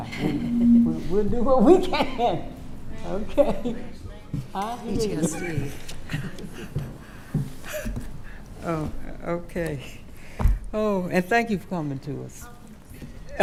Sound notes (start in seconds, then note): 3.3 speaking quietly; 5.2 laughing